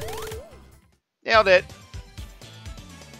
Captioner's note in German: Soundeffekte